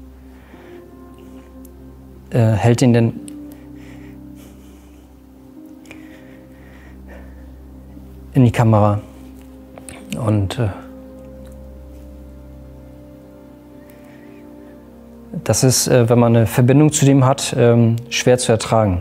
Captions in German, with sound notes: Hält ihn dann ... (Schweres Atmen) In die Kamera. Und ... (Bedrückte Musik) Das ist, wenn man 'ne Verbindung zu dem hat, schwer zu ertragen ...